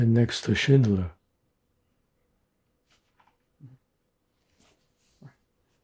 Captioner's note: pauses 6 seconds